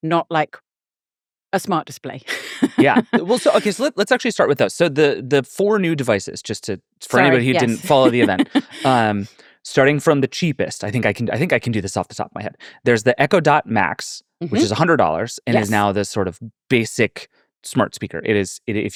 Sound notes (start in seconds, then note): 2.2 laughing; 7.1 laughing